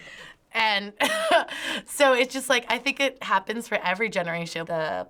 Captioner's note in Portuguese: risos